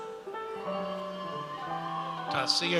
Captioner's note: audience cheers